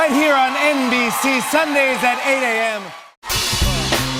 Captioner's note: cheers and applause